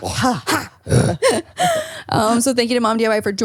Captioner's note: growls